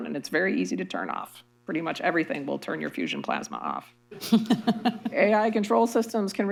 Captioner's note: laughter